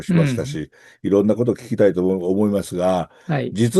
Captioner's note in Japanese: 咳払い